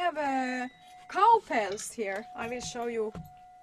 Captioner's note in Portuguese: cowbells